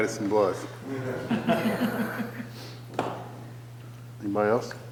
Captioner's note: people laughing